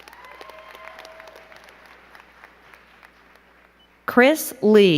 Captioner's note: crowd clapping and cheering